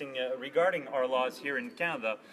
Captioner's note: speaking French